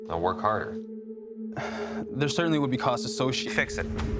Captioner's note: sighs